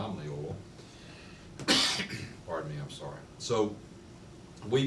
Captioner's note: coughs